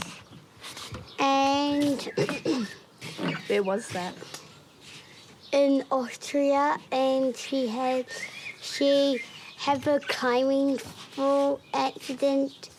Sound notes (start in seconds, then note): 1.9 clears throat